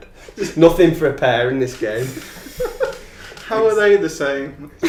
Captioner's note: laughing